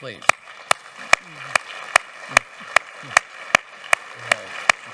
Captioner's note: audience applauding